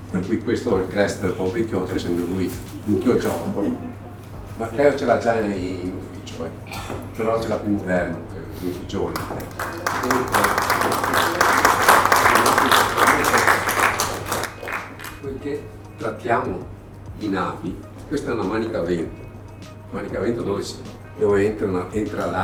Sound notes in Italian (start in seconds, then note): 9.1 Applauso